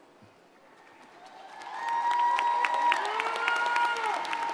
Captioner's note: crowd applauding